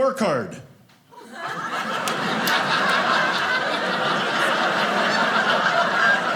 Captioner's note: audience laughing